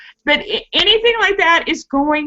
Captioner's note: laughing